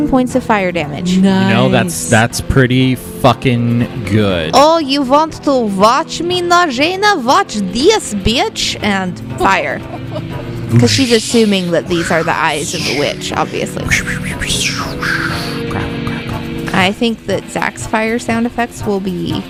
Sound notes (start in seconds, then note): 9.4 laughs; 14.5 makes fire blasting sounds